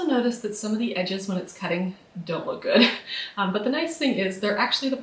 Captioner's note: laughs